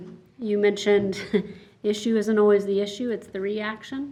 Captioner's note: chuckles